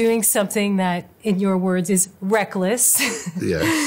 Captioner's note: chuckles